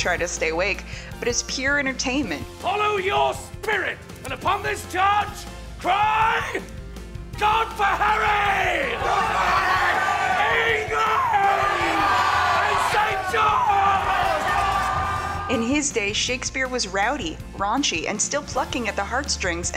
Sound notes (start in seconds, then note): 11.6 crowd; 14.3 crowd cheers